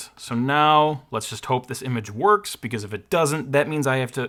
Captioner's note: none